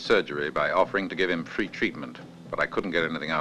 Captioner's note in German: Schritte hallen wider